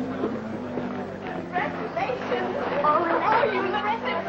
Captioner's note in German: Zwischenstimmen